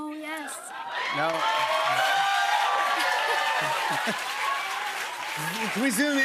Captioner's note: cheers and applause